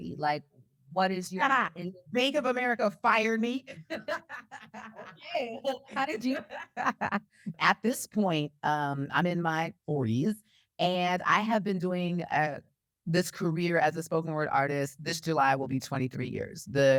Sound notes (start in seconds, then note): 3.6 laughs